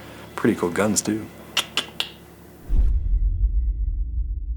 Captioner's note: tongue clicking